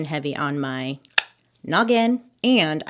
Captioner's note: tongue click